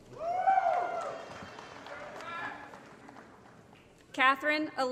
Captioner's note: applause & Cheering